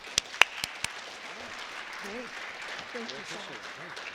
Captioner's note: applauding